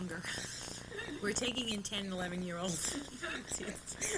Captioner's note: laughter